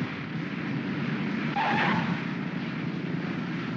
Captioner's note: wheels chirp; aircraft rumbles